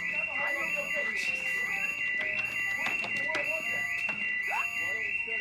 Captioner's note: alarm continues blaring